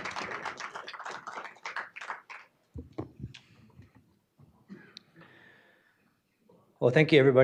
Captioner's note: applause